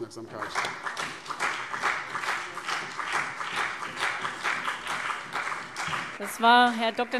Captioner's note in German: Beifall CDU und BÜNDNIS 90/DIE GRÜNEN